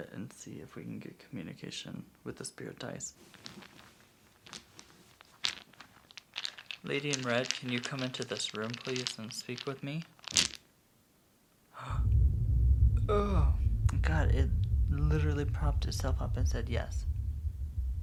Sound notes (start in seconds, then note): 3.6 dice clacking; 10.6 dice splatting; 11.8 gasping; 11.8 haunting sound